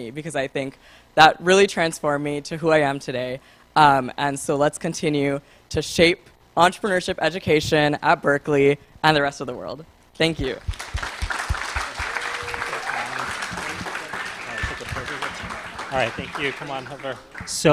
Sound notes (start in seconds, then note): 10.4 applause